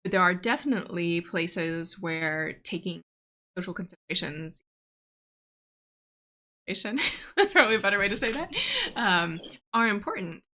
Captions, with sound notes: There are definitely places where taking social considerations, (audio cuts out) that's probably a better way to say that, are important.